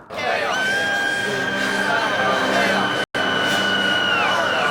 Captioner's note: chanting